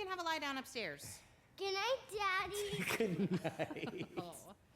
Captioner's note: laughs